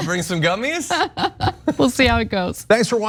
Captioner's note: laugh